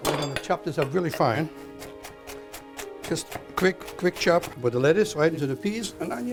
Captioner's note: chopping